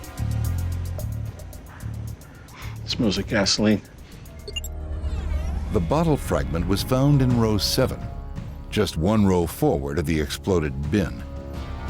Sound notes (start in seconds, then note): 0.1 ominous music; 2.3 wheezing; 4.4 tinkling; 4.6 humming; 11.6 sinister music